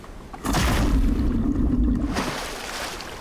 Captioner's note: water splashing; bubbles gurgling; water lightly splashing